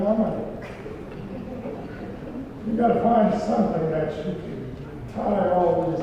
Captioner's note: laugh